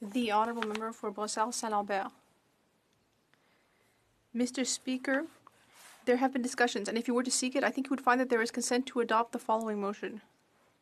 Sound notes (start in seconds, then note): 1.3 speaking French